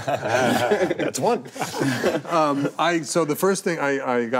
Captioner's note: group laughing